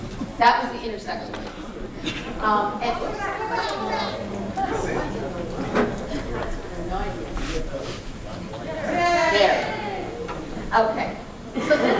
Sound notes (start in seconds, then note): 2.9 cries from crowd to slow down; 8.6 more sarcastic cheers